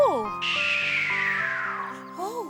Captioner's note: shrieking